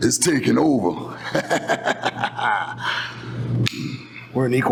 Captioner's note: laughs